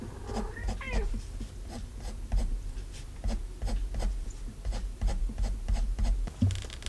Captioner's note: cat meow